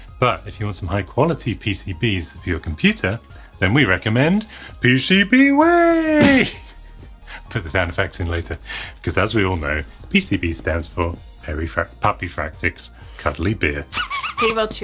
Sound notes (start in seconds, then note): 5.9 smacking sound; 13.9 squeaking